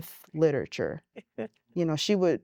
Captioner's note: giggling